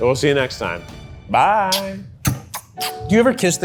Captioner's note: blows kisses